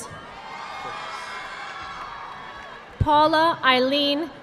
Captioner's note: audience clapping